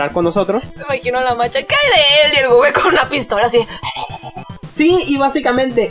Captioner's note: panting noises